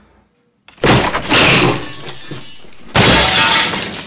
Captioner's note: creaking; shattering